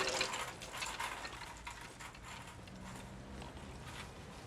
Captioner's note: cart rattling